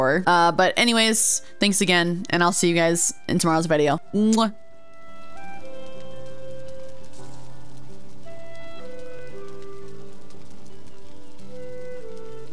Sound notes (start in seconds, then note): 4.2 kiss